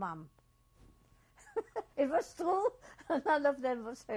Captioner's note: laughs